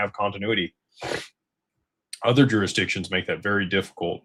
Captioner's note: snorts